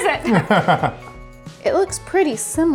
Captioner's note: laughs